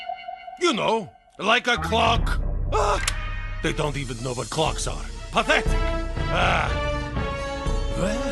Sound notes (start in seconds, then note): 2.6 groans